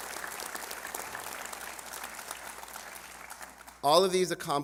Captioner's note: applause